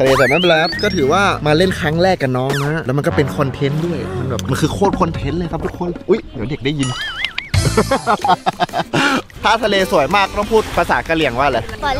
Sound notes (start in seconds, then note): 6.8 laughs